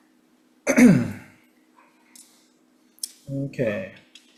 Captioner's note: Chair clears throat